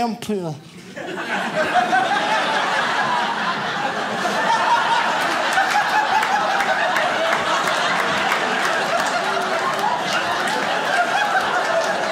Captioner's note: audience laughs